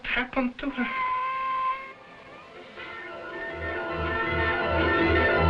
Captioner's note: cat meowing; dramatic music